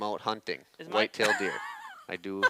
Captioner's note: laughs